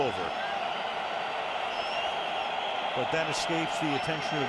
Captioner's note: cheering